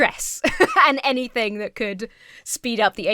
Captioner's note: laughs